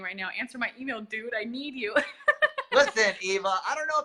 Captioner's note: laughs